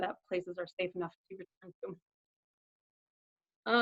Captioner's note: audio cuts out